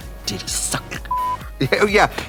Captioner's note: beeping